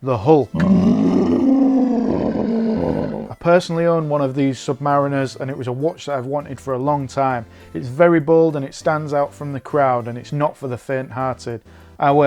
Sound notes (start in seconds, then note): 0.5 growls